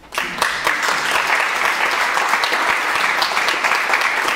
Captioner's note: audience clapping